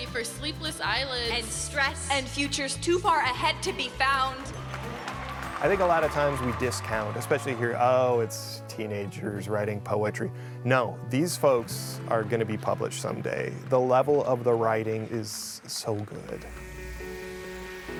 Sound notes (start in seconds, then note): 4.2 audience applause